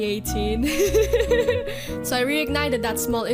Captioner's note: laughs